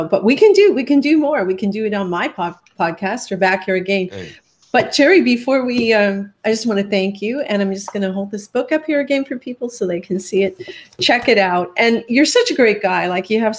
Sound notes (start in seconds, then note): none